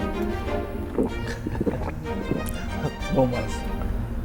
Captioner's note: gulping